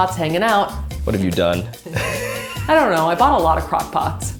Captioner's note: laughing